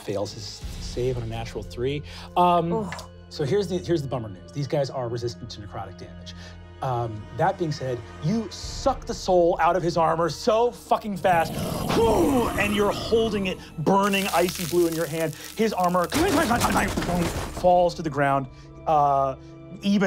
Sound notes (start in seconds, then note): 11.2 wooshes; 16.1 clanking